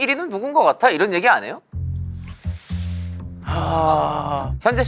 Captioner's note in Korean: 쓰으으으으읍